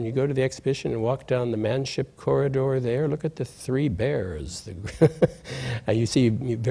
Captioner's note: laughs